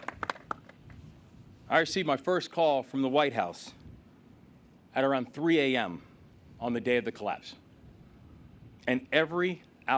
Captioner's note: applause